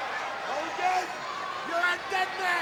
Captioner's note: crowd cheering